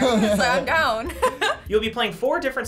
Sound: laughs

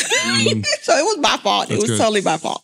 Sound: laughing

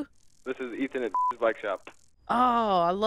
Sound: beeping

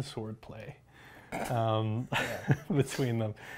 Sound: laughter

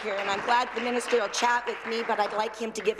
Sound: applause

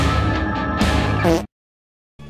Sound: fart

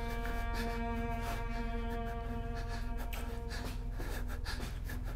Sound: Alister panting

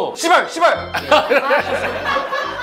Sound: bwahahaha

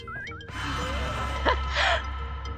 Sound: laugh

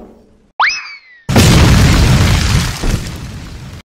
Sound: kicks; kaboom!

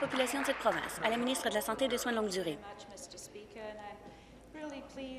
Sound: applause

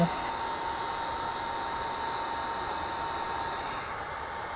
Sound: heat gun blowing

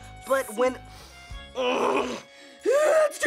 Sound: sniffs, groans

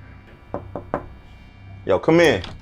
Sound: knock at the door

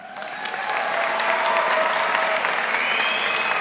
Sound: cheers and applause

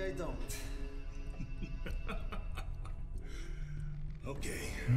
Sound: laughs

